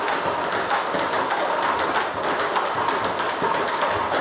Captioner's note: ball ping pong hitting continues